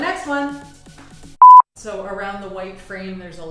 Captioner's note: beep